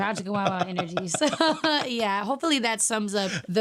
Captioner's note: laughing